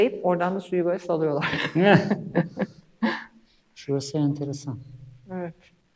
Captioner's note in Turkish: kahkaha